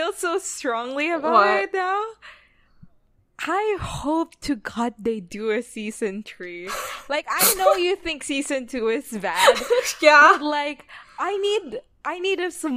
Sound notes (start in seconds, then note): 5.9 laughs